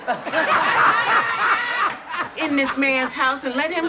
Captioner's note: audience laughs